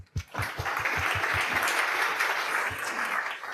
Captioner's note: audience applauds